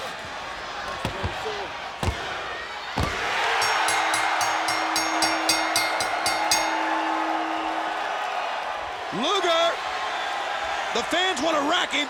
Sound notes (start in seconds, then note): 3.4 bell rings; 3.8 audience cheers